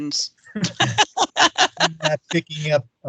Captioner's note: laughing